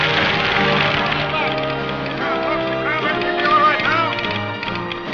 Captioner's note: telegraph clicking